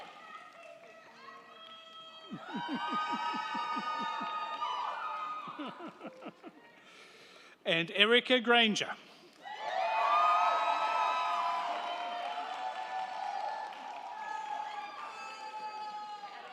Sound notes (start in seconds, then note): 9.4 crowd cheering; 9.4 crowd clapping